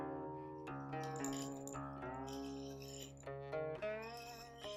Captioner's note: tea leaves dropping